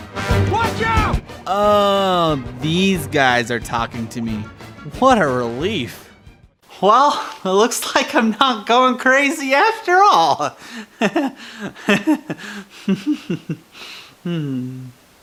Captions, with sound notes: "Watch out!" Oooooh! These guys are talking to me. What a relief! Well, it looks like I'm not going crazy after all! [Nervous laughter.] Hm...